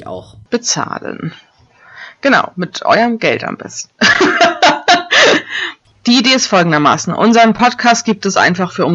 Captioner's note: laughs!